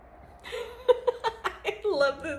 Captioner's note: laughs